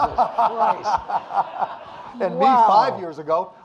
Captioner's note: audience laughing